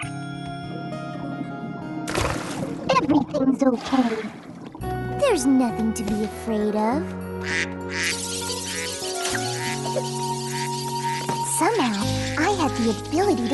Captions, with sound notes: [ Warbly ] everything's okay. There's nothing to be afraid of. [ Quacking ] [ Animals chattering ] Somehow, I had the ability